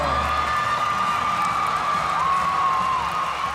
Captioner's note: crowd cheering